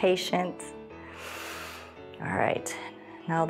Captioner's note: inhales